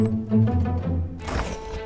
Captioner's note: opens fridge